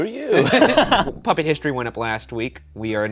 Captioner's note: laughing